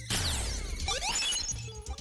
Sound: zap; SMB1 crush SFX

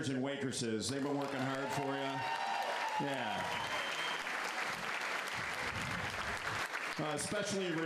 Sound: applause

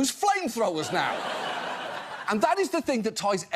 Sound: audience laughs

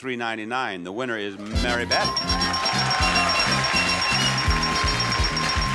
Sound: buzzer ringing; audience clapping

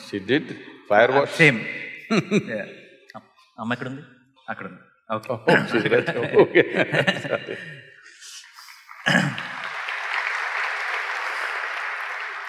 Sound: laughs; applause; laughs

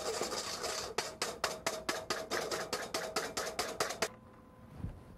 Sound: whisk tapping

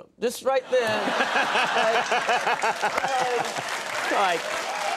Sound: audience laughing

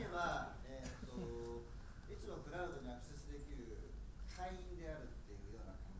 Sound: speaking foreign language

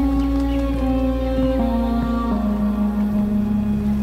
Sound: birds squawking

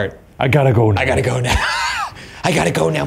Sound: laughs

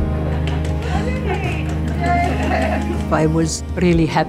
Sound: applause

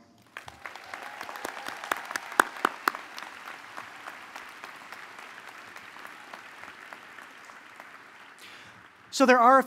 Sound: applause

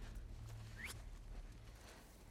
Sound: whistle

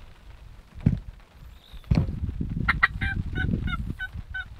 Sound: light thumps; turkey calls

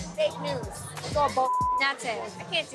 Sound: beep

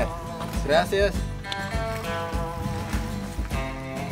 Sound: speaking Spanish

